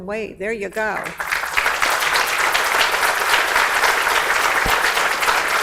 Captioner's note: audience applauds